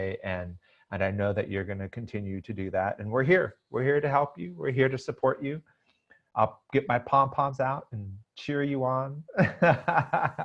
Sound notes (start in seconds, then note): 9.4 laughs